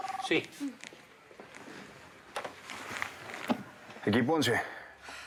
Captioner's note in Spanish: suena el celular